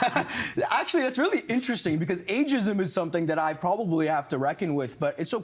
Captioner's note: laughter